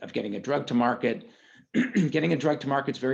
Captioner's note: clears throat